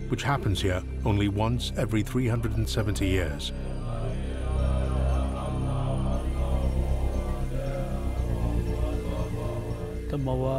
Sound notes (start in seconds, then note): 3.8 Bhutanese people praying; 10.3 speaking in foreign language